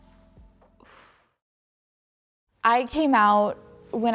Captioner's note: woman exhales deeply